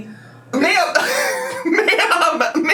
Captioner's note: laughing